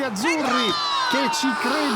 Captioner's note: everybody exulting